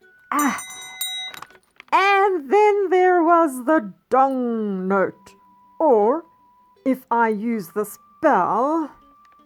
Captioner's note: dong